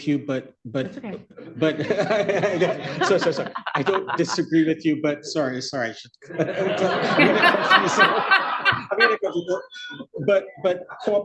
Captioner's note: laughter